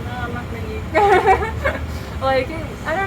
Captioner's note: laughs